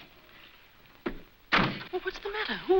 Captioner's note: door slams